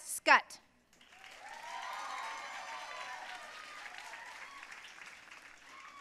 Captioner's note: audience cheering and applauding